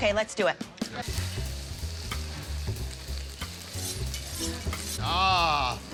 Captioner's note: upbeat music; food sizzling